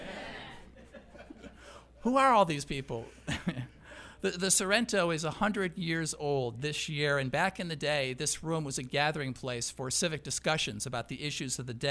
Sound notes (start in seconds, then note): 3.4 laughs